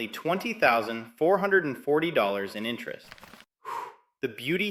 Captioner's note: exhales